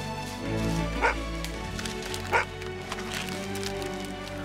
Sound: dog barking

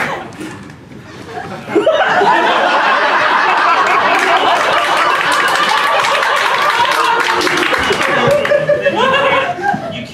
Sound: laughter & applause

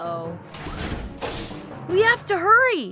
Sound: door whirs

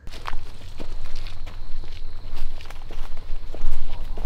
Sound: footsteps

